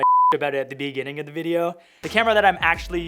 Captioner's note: beeping